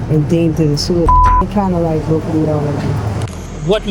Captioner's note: beep